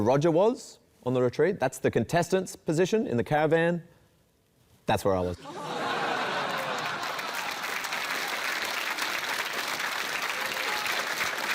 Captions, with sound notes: This is where Roger was on the retreat. That's the contestant's position in the caravan. That's where I was. [LAUGHTER] [APPLAUSE]